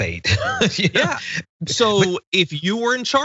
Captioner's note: laugh